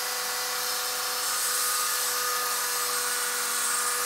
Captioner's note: high-pitched drilling noise